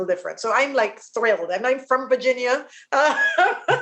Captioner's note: laughs